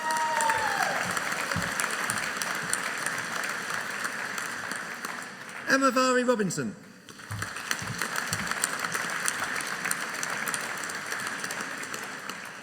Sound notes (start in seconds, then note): 0.0 audience cheering; 7.1 audience applauding